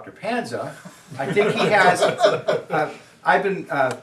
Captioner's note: students laugh